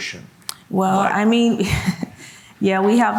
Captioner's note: laughs